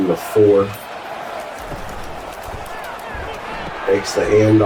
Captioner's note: crowd Noises